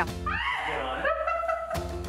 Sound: contractor playfully screams; laughing

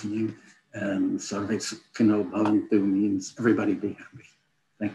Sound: non-english

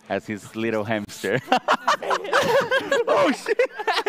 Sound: laughs

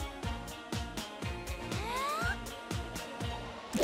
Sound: inhales

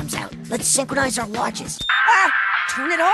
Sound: screams

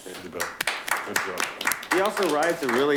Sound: clapping

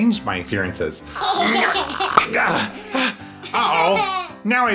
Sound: laughs; grunts

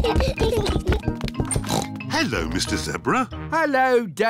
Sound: oinks

